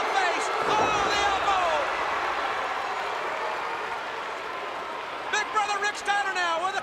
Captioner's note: crowd cheering